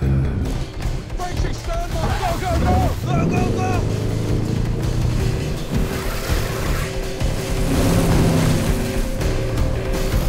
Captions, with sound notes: - Frenchie, stand by, go, go, go! (boat engine hums) (dramatic music)